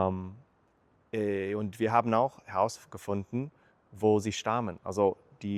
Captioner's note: in German